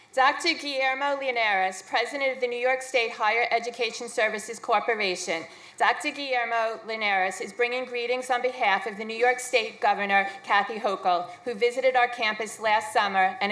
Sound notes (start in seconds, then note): none